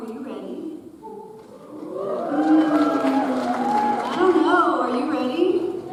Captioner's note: audience cheers